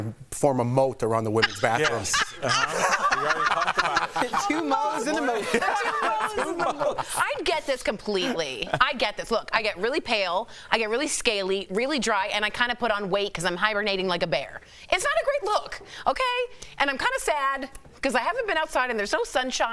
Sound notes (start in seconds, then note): 6.2 laughter